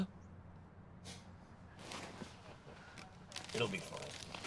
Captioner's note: chuckles